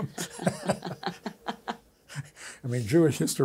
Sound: both laughing

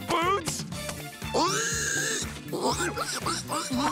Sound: squealing

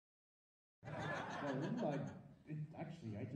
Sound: audience laughing

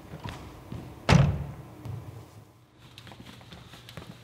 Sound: door slams

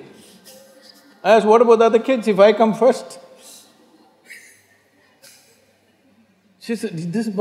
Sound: laughs; laughs

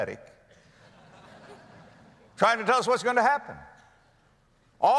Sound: audience laughter

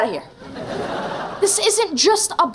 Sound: laughing

